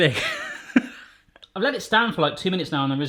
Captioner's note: laughing